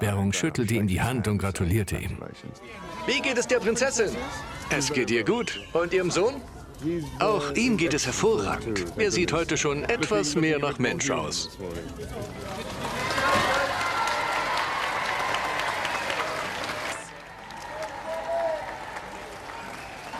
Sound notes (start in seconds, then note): 3.2 voiceover; 6.0 voiceover; 12.8 crowd cheering